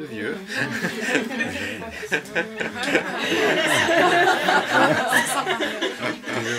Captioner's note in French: rires